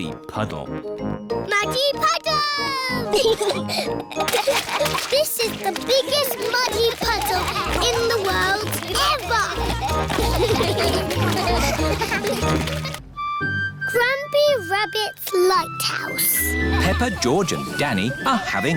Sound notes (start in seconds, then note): 3.1 both giggling; 8.1 all giggling; 9.1 all laughing